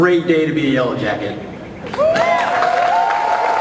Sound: applause

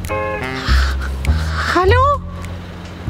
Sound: in high-pitched voice

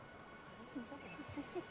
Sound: laughing

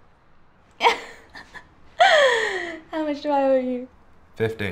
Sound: laughs

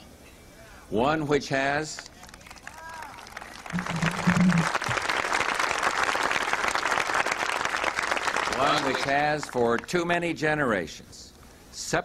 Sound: applause

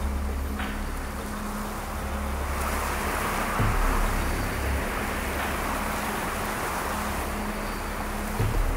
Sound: wind gusts

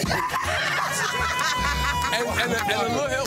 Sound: group laughing

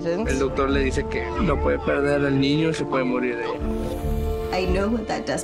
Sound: man speaking Spanish

